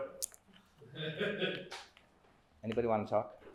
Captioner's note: laughs